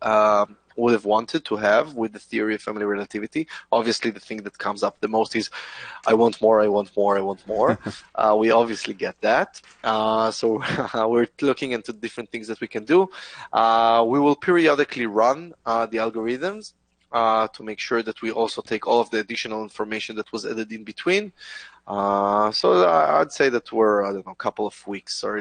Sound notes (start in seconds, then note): 7.5 laughs; 10.4 chuckles